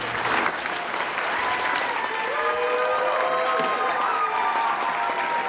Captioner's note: cheers and applause